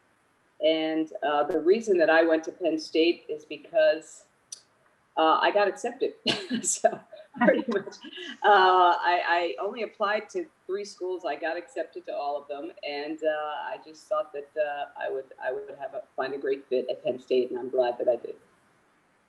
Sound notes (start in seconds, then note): 7.0 laughs